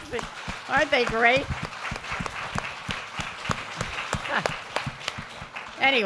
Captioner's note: applause